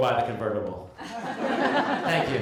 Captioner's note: laughter